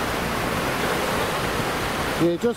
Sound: waves drowns out reply; waves crashing

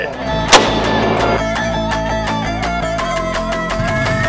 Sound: gunshot banging

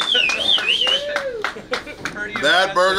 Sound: whistling; clapping

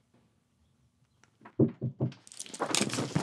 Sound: knocking

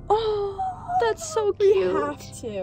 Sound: girls coo

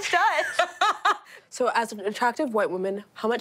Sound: laughing

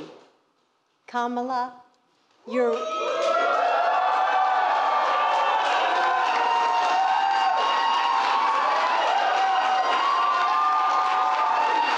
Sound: applause

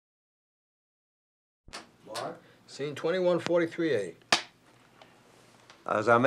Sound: clap

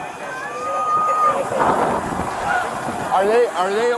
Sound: hollering

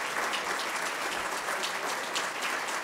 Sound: applause

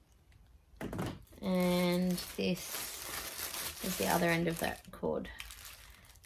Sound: plastic rustles

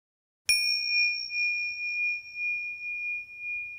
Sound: chime ringing

